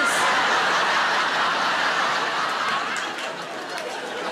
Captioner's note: audience laughing